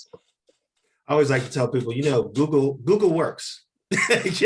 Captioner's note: laughs